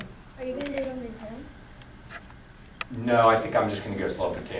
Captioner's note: voiceover